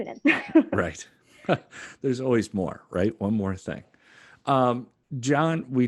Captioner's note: laugh